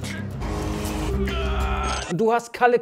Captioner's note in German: Schmerzverzerrte Laute